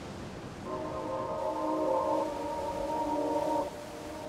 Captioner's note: water sloshing